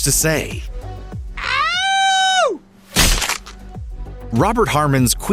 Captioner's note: howling